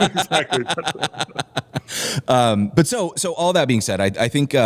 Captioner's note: laughter